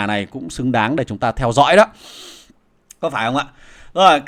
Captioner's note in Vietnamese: khịt mũi